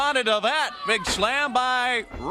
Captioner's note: crowd chatter